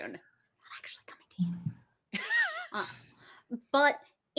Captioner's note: whispering